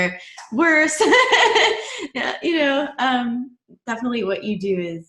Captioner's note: laughs